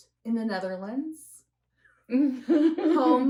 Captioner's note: laughter